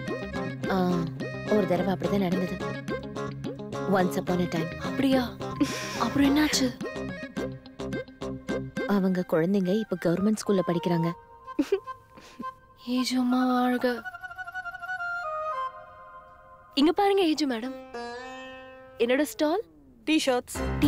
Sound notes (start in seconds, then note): 11.5 giggling